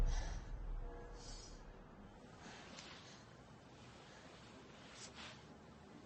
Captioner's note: bell chiming in distance